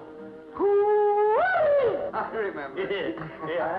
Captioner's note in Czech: Křik